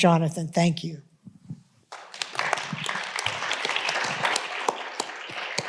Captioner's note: audience applauding